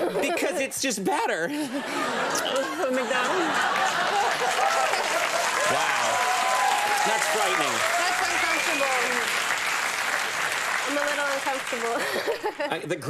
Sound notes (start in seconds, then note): 1.6 audience laughing; 4.0 audience clapping